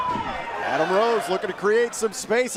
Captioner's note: cheers & applause